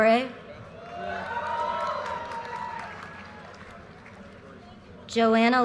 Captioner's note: audience cheers and applause